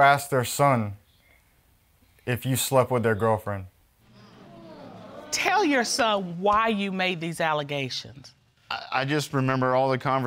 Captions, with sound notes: who asks their son if you've slept with their girlfriend? (AUDIENCE GROANS) Tell your son why you made these allegations. I just remember